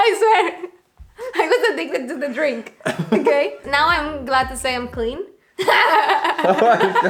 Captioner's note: laughter